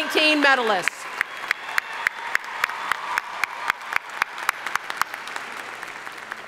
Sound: audience cheering and applauding

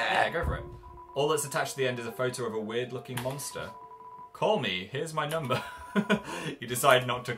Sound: laughs

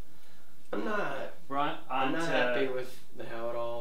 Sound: none

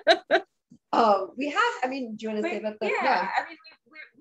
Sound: laughs

